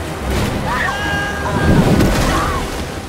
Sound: screams

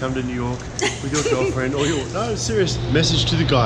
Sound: laughing

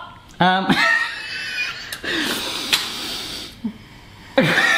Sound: laughs

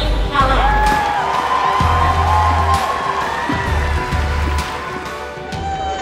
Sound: applause

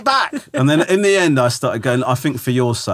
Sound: laughing

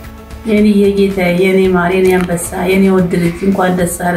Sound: foreign language

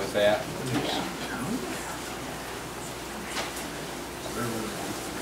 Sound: overlapping chattering

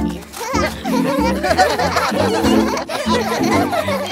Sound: laughing

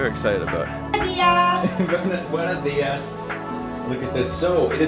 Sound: speaking Romanian

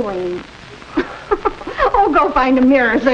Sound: chuckling

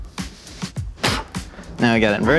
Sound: spits

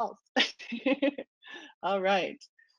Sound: laughter

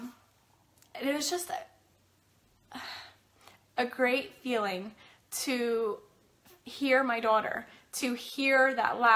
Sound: sighs

